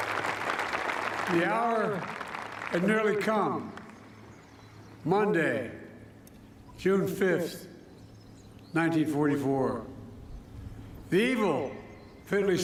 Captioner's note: applause